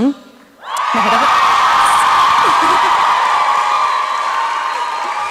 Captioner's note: applause and cheering